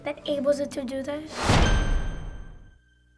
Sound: ding!

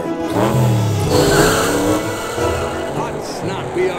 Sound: Lightning's engine revs; Lightning's tires squeal

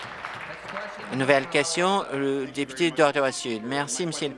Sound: applause

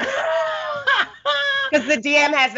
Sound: Brennan laughs

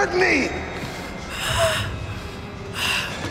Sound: gasps

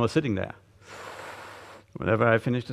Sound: gusty inhalation

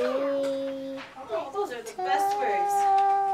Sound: background chatter

